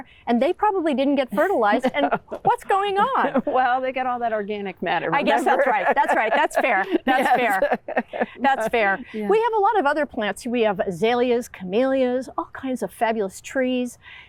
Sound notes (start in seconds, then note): 1.3 chuckling; 7.9 laughs